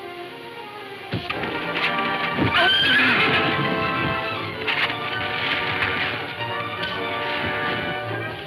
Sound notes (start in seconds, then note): 0.2 dramatic music playing; 2.2 horse neighing